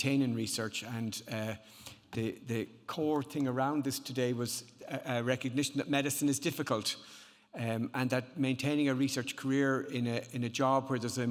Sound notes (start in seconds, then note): none